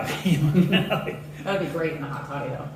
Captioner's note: laughter